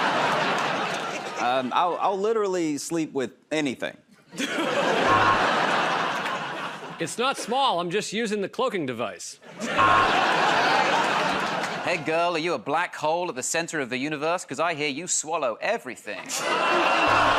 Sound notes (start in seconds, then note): 0.0 laughter; 4.3 laughter and applause; 5.0 buzzer; 9.5 laughter and applause; 9.8 buzzer